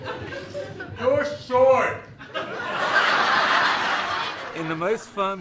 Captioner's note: laughter